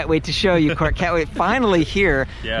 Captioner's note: laughs